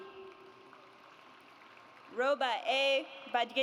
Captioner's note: audience applauds